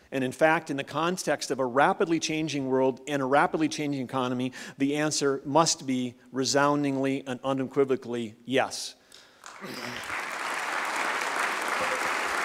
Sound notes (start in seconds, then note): 9.4 applause